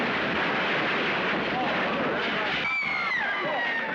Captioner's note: commotion; women Screaming